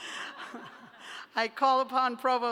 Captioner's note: laughter